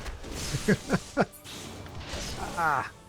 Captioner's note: laughs